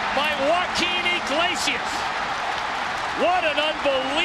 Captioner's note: crowd cheering